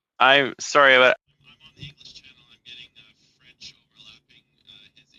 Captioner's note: speaking FRENCH